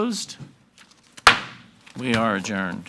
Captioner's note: gavel bangs